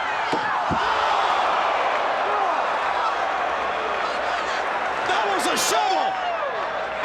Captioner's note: crowd cheering